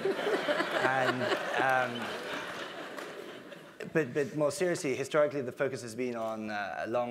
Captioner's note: laugh